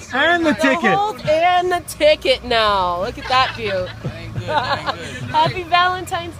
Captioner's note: laughter